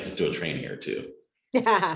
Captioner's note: laughter